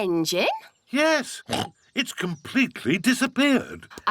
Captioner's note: oinks